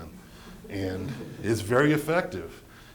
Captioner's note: laughter